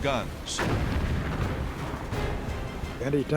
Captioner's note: explosions